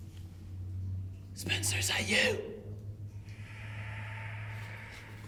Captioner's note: distant voice hissing and whispering